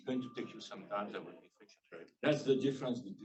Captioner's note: speaking faintly